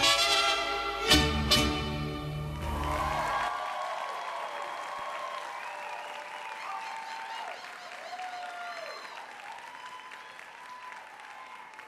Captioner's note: cheers and Applause